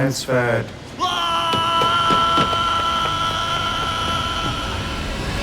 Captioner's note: yelling